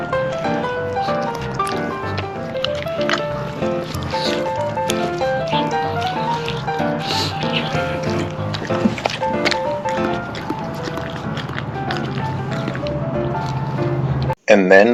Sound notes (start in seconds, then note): 0.0 intense chewing sounds